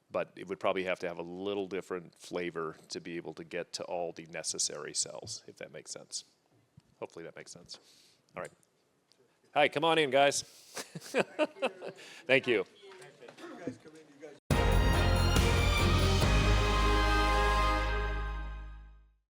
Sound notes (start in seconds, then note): 10.8 laughs